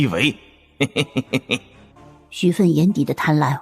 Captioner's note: sinister chuckle